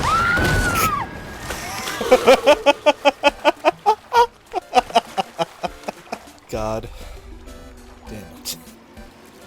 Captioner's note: scoff; laughter